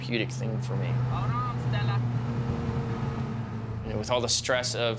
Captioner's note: car engine rumbling